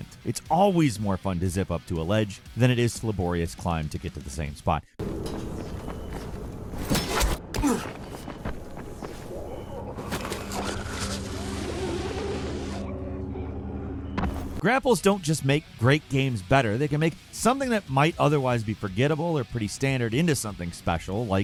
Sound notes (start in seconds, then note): 7.5 character grunting; 9.9 grapple whizzing